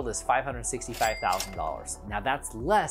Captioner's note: cash register dings